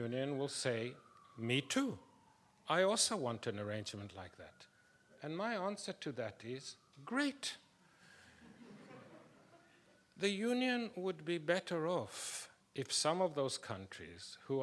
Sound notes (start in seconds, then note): 8.4 people laughing